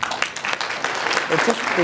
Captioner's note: applause